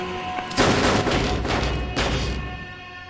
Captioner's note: five gunshots in quick succession